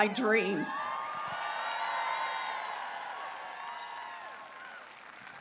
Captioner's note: applause